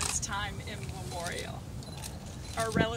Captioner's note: bird sounds